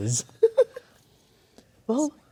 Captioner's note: laughing